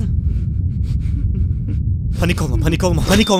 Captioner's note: panic sounds